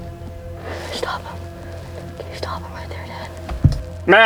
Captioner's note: whispering